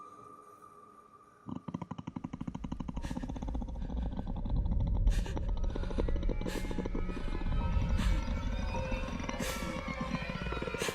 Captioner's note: a guttural growl begins quietly and starts to grow louder